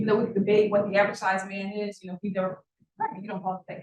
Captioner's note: sound distorted